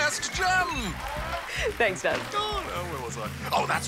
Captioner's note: applause